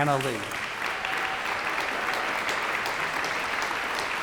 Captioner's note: applause